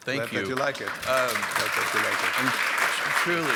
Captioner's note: audience applause